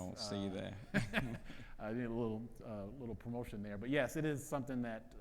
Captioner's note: laughs